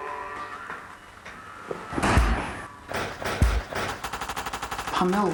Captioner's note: the sound of his punch echos in the room comically